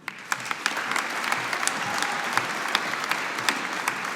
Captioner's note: audience applauding